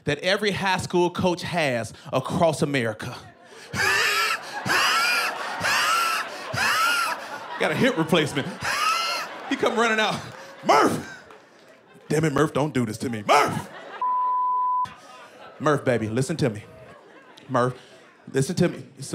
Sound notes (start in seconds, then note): 3.4 wheezing; 5.8 laughter